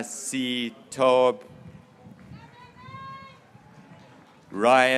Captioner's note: graduates cheering